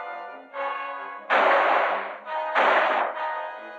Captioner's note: gunshots